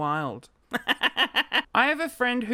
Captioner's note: laughter